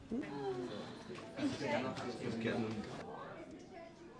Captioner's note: noisy background chat